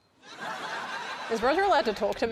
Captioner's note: laughter